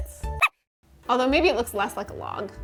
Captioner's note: dog squeaking